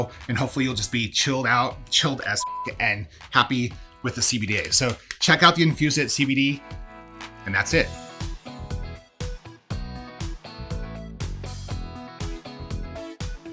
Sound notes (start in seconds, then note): 2.4 beep; 9.0 upbeat music